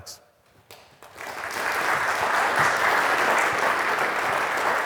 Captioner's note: audience claps